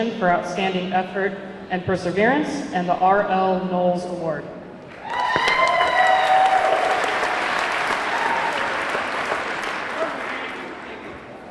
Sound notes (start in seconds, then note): 4.9 audience clapping; 5.0 audience cheering